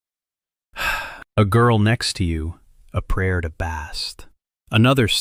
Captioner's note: sighs; whispers